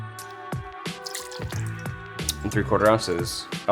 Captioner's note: gentle music; liquid flowing